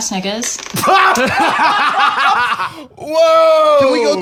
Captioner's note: laughing